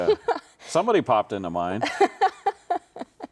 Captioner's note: laughing